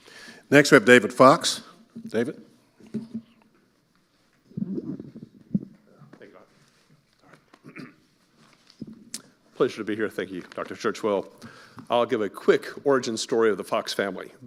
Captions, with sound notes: Next, we have David Fox. David? (microphone creaking) - Thank you, Doc. - Yeah, sorry. (clears throat) - Pleasure to be here. Thank you, Dr. Churchwell. I'll give a quick origin story of the Fox family.